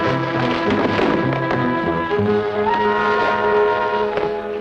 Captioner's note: sheriff thuds